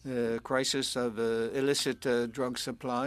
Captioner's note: speaking French